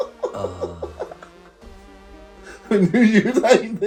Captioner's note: laughing